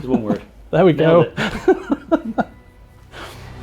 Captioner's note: laughs